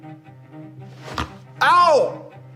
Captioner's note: rattle